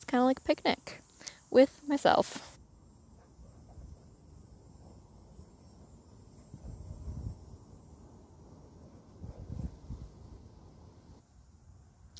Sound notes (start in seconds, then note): 3.0 wind noises